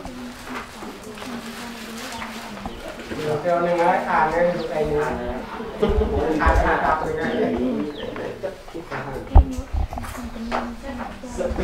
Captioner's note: chattering